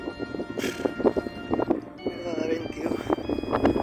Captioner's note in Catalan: Esbufega